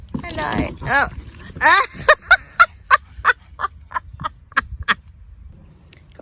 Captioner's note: cracks up laughing